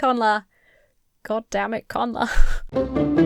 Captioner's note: chuckles; lighthearted music